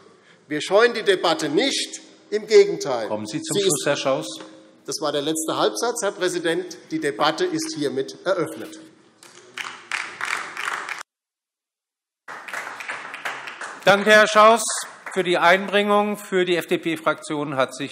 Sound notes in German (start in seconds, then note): 8.8 Beifall DIE LINKE